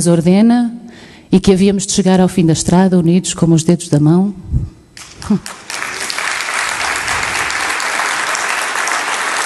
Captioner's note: applause